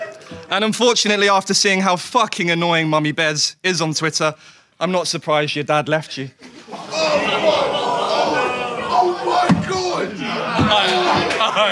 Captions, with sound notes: And unfortunately after seeing how fucking annoying Mommy Behz is on Twitter I'm not surprised your dad left you. (audience groans) - Oh my god. Oh my god.